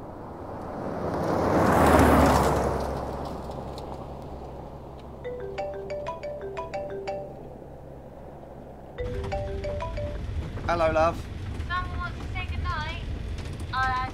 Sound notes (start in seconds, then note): 0.3 car loudly approaches; 5.5 phone ringing